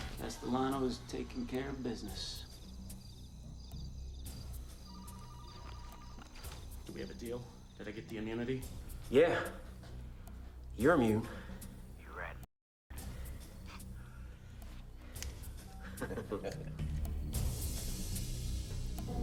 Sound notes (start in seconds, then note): 3.1 suspenseful music; 4.9 phone ringing; 15.8 Gammon chuckles